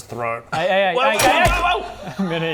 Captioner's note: twang...squish